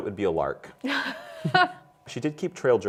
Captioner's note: laughs